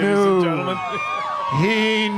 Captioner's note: crowd cheering